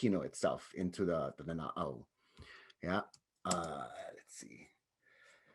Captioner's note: speaks in native language